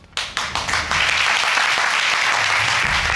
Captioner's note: audience applauding